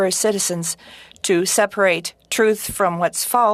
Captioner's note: speaking french